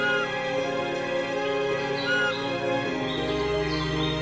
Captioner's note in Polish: słychać delikatny głos sóweczki